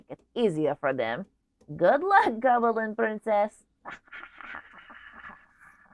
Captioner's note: snickers